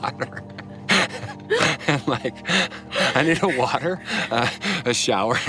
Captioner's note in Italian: risate